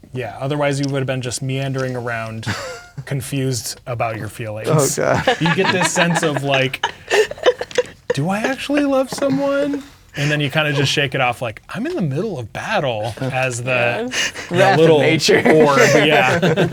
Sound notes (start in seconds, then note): 4.6 chuckles; 4.6 players laughing; 16.5 players laughing